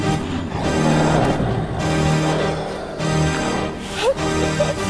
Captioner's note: riverbeast roaring